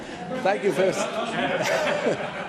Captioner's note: laughter